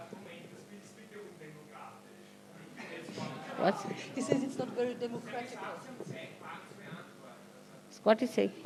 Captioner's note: german